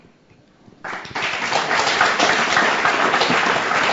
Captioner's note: applause